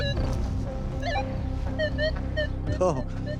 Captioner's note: beeping louder